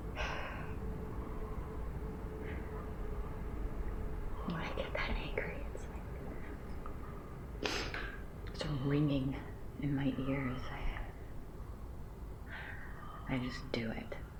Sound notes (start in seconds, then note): 7.6 sniffles